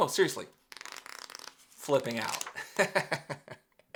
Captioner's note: pages flipping; laughs